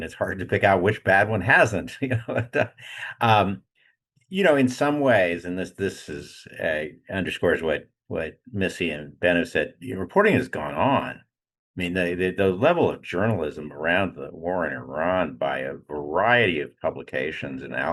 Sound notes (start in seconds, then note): 1.9 laughing